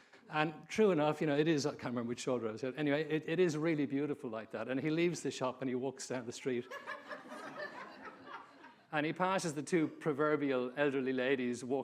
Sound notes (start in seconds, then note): 6.7 audience laughing